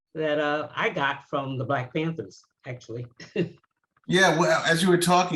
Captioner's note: laughs